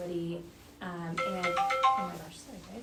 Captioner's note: phone ringing